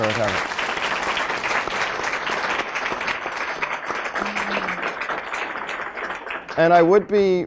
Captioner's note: applause